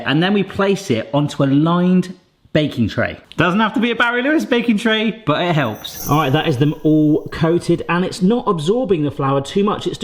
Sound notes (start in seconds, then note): none